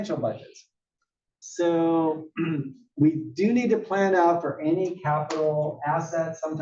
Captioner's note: cough